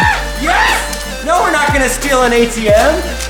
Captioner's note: laughing